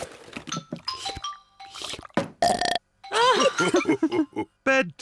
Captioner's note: laughing; slurps and belches